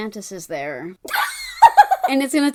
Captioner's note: cackles